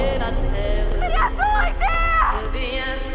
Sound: echoing

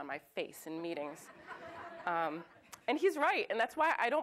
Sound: audience laughs

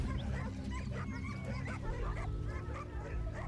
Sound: dogs barking

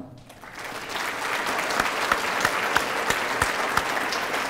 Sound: applause

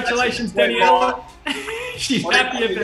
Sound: laughing

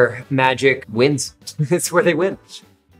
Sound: laughing

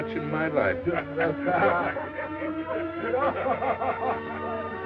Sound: laughing

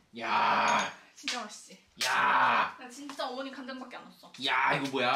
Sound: aggressive sound of approval

